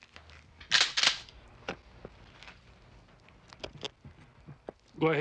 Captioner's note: gun clicking